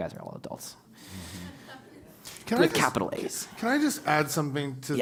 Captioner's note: laugh